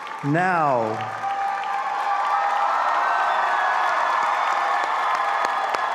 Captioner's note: all applauding and cheering